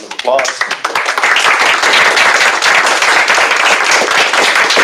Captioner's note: applause